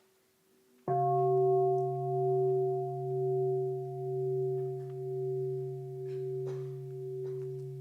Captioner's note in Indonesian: Bunyi genta